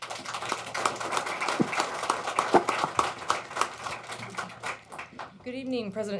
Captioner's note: applause